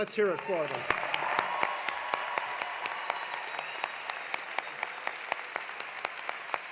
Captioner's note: audience applauding; audience cheering